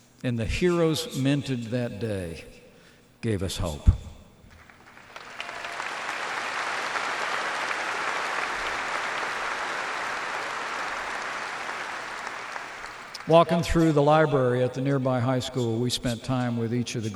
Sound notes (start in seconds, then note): 4.5 applause